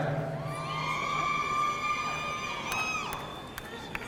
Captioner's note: audience cheering